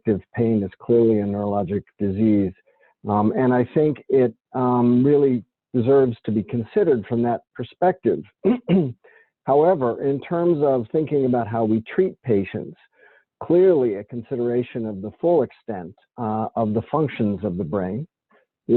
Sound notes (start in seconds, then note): 8.4 clears throat